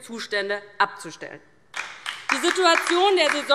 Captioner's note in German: Beifall DIE LINKE